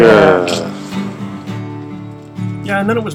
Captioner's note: groans